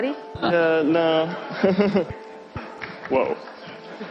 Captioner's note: chuckles